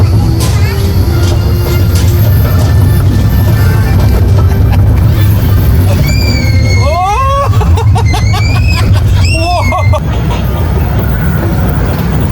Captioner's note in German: gelächter